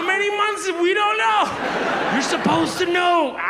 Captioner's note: audience laughs